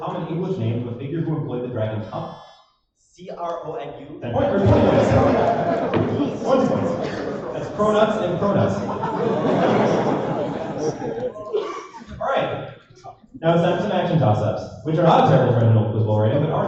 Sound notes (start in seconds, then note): 9.0 laughter